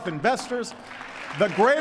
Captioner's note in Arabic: تصفيق